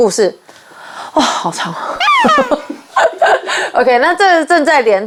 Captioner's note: gasps